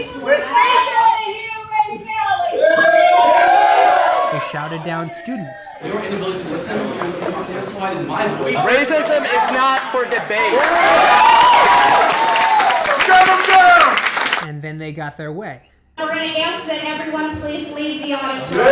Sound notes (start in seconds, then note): 2.5 students cheering; 11.8 loud cheering